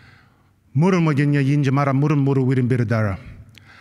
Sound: non-english speech

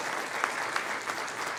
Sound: applause

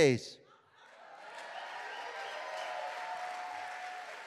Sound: cheering

